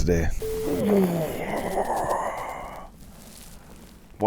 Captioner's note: groaning while flexing